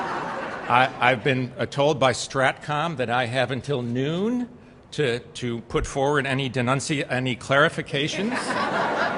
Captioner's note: laughter; laughter